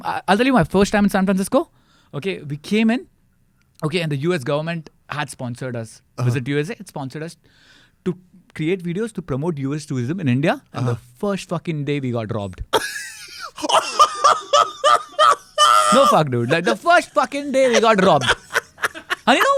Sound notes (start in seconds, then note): 12.7 laughs